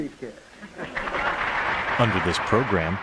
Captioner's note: applause